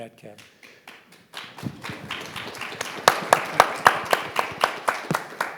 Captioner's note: audience applauds